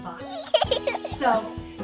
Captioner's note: baby laughs